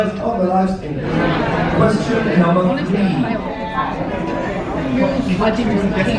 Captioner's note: people chattering indistinctly